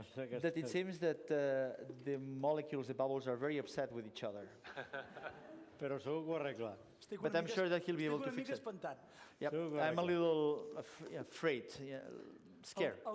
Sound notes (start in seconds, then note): 4.6 laughs; 6.3 non-english speech